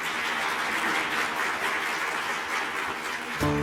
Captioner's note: applause